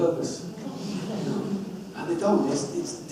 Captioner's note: audience protests